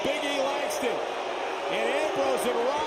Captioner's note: crowd boos